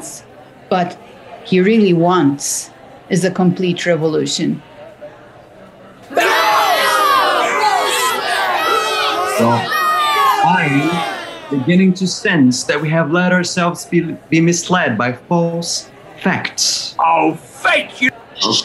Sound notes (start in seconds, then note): 6.1 crowd